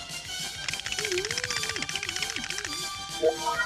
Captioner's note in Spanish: choque de dientes